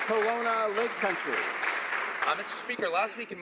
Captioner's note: some Applause